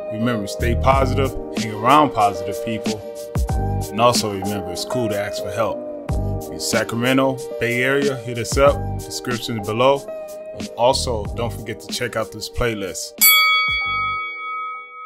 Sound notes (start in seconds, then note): 13.2 bell chimes